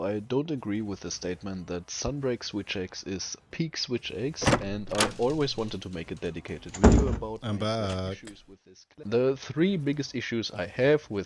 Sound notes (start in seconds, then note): 4.4 door opens; 4.4 door unlocks; 6.7 door closes